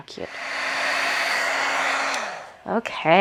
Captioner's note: heat gun whirring